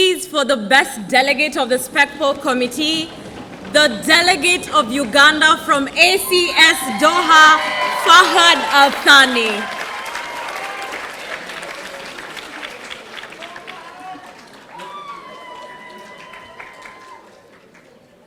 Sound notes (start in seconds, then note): 9.5 audience applauding